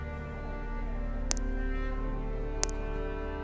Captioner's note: blood dripping